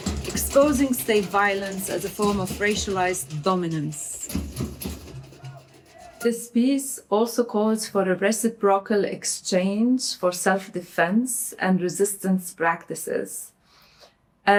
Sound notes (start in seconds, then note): 5.8 protestors yelling